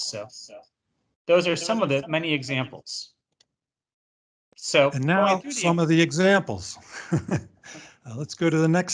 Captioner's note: chuckle